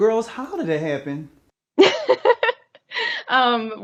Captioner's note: laughs